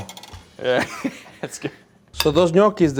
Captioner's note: laughs